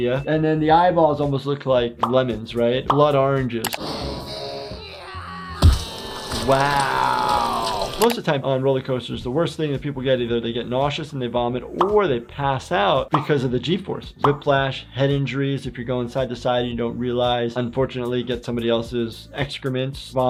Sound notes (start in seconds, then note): 4.6 Lifty yelling; 5.6 gate grinding